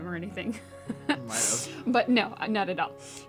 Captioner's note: laugh